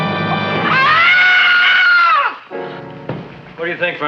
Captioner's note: Mrs. Feuchtwanger screams